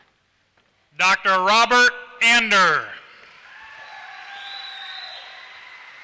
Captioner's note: applause